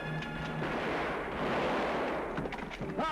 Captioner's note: gunshots